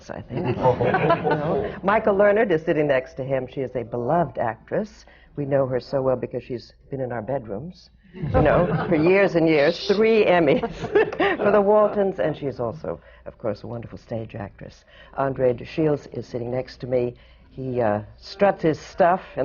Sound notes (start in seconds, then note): 0.3 laughter; 8.2 laughter; 8.2 laughs